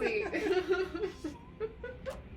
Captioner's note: laughing